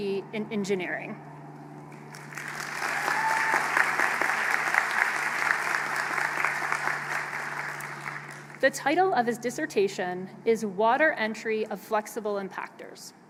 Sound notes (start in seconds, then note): 1.9 applause